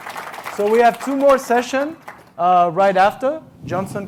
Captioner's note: applause